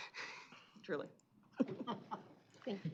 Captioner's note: chuckling